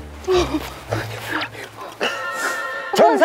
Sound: heavy breathing from happiness

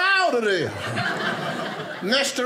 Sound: audience laughing

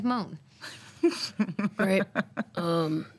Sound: laughter

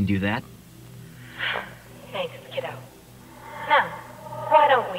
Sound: sigh

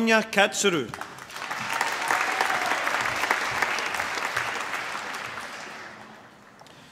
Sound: applause

